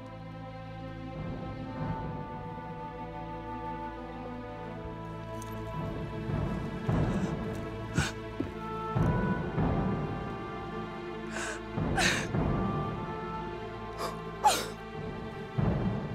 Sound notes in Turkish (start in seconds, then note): 6.1 Müzik - Duygusal; 11.7 Ağlama sesi